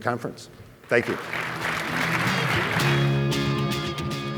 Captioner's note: applause